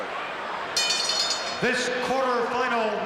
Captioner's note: bell rings